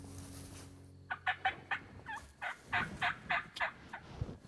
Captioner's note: turkey calls